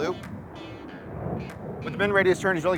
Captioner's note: aircraft humming